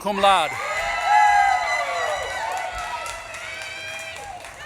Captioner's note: audience claps and cheers